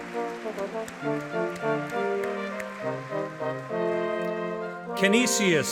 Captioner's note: audience clapping